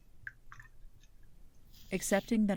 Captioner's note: water splashing